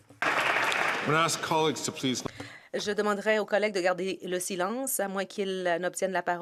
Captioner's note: some Applause